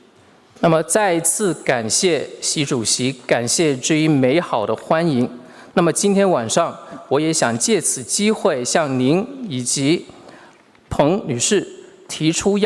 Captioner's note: speaking Mandarin Chinese